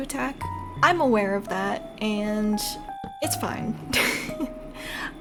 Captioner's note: laugh